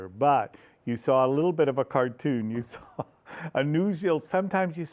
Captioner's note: laughs